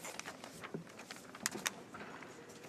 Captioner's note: speaking French